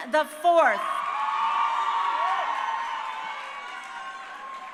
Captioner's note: crowd cheering